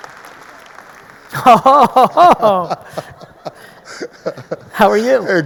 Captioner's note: man laughing